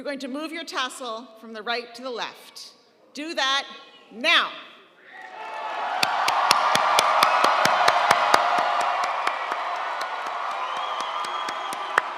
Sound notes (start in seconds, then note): 5.1 audience cheering; 5.2 audience applauding; 8.9 faculty applauding